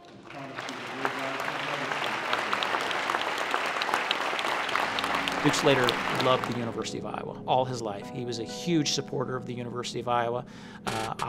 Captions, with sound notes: [ APPLAUSE ] >> DUKE SLATER LOVED THE UNIVERSITY OF IOWA. ALL HIS LIFE, HE WAS A HUGE SUPPORTER OF THE UNIVERSITY OF IOWA.